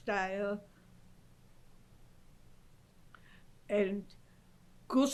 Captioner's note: pauses for 3 seconds